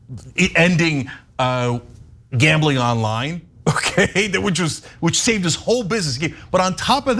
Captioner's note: laugh